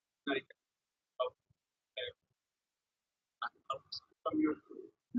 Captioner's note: man speaks through warped and choppy audio